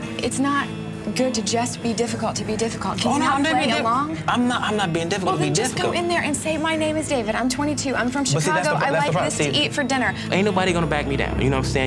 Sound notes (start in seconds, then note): 3.3 mumbles